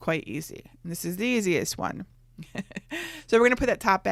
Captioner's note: laughs